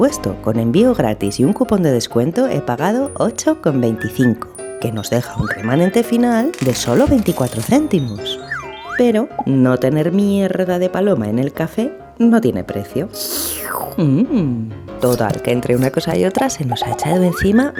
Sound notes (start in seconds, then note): 13.2 slurps